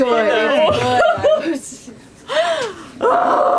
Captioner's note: laughter